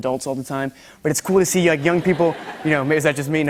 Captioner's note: laughter